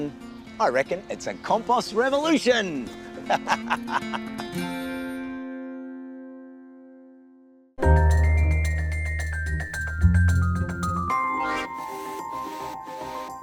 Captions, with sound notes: other than I reckon it's a compost revolution! (LAUGHS)